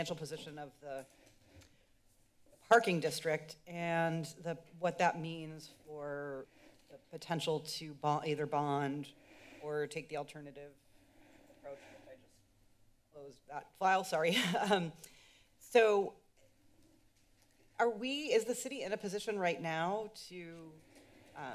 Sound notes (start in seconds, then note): 14.4 chuckles